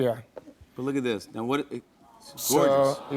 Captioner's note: audience "Aww"s